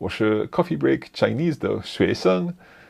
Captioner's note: speaks in foreign language